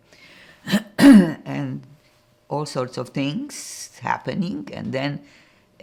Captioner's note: clears throat